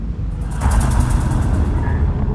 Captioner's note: eerie horror sound